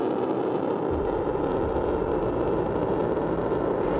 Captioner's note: boosters firing